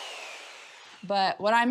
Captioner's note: saw whirring